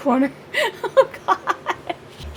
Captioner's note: laughing